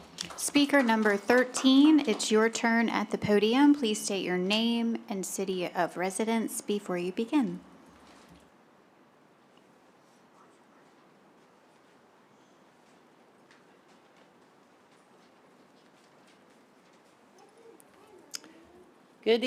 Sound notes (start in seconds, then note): 7.7 silence